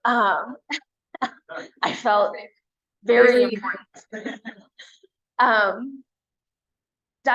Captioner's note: chuckle